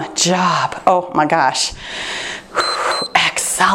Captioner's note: timer beeps